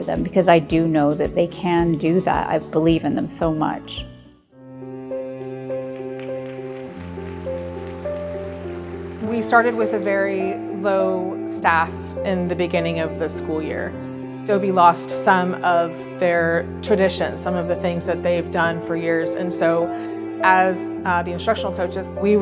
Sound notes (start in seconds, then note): 4.7 gentle music; 5.8 audience applauding